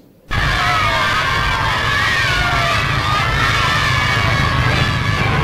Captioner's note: cheering